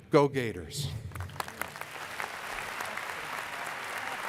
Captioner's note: applause